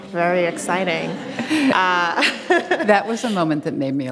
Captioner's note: audience laughs